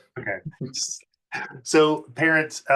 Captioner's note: chuckles